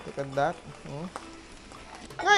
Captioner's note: sizzle